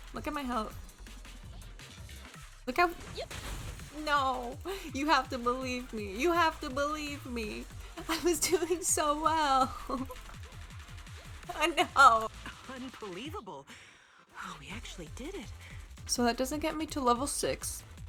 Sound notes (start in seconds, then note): 7.8 laughing